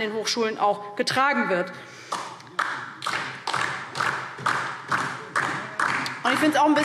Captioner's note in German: Beifall DIE LINKE